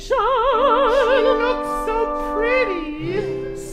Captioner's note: client in falsetto